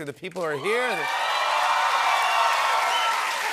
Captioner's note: cheers and applause